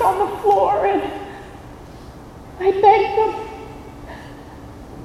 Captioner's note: voice breaking